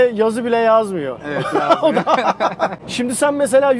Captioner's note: laughings